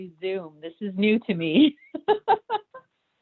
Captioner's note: laughter